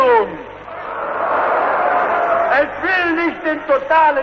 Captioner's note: booing, Screams: "No!"